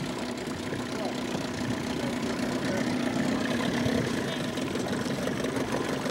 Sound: boat motor humming

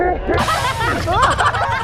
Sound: laughing

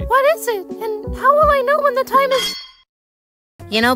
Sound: metallic clang

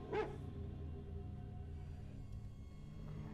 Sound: dog barks

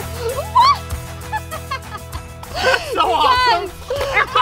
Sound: laughing

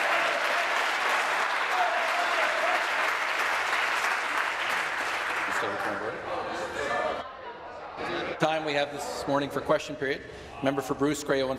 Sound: applause

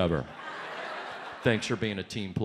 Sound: audience laughs

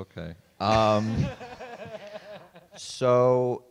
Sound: laughs

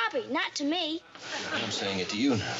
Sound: audience laughing

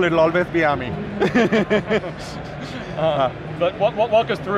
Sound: laughs loudly

